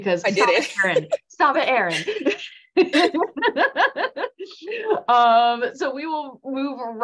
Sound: laugh

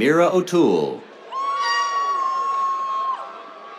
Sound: cheers, air horn

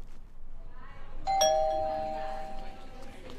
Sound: doorbell; murmuring

